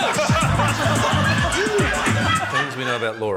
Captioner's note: funky hip-hop beat plays; laughter